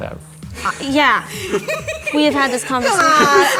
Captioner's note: giggling